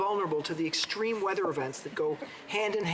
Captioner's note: none